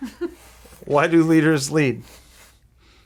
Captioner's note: giggling